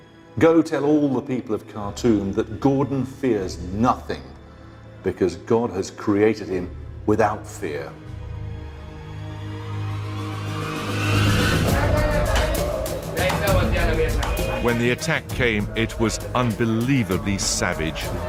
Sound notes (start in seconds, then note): 11.6 people clamouring